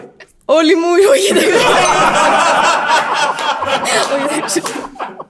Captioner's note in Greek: γέλια